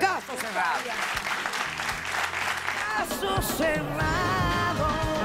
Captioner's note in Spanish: Aplausos